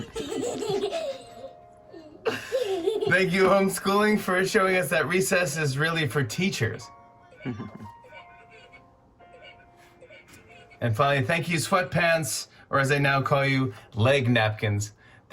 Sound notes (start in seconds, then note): 7.4 laughs